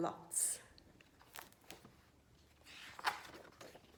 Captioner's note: book opening